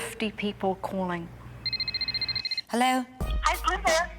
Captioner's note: phone rings